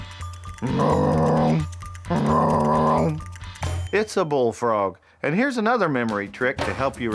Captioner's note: wildlife call